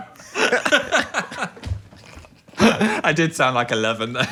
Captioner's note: group laughing